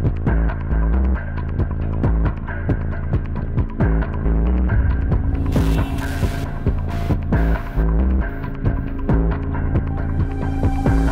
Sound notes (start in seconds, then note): 5.3 static crackles; 7.6 tense music